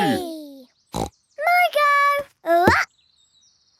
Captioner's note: snorts